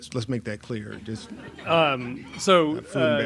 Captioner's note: laughs